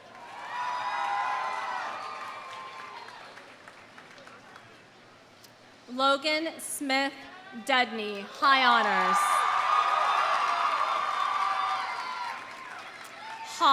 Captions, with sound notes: (audience cheering) (audience applauding) Logan Smith Dudney, high honors. (audience cheering) (audience applauding)